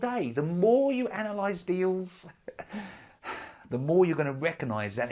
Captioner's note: chuckles